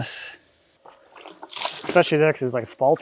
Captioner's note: water splashing